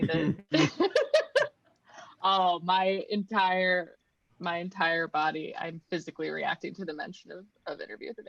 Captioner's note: laughs